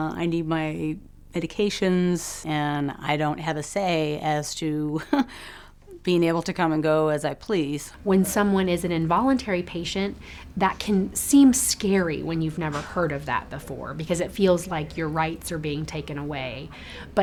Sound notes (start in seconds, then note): 5.0 chuckles